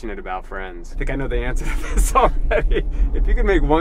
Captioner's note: laughing